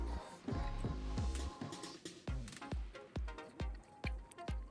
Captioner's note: sizzling